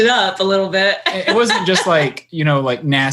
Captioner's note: laughing